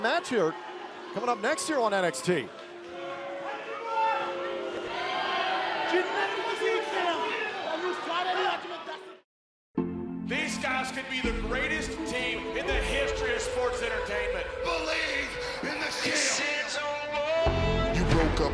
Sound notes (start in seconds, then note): 3.3 crowd cheering